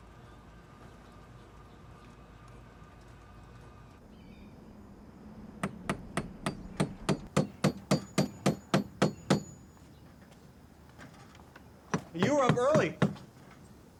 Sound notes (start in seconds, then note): 5.6 hammer thudding